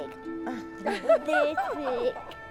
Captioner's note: laughing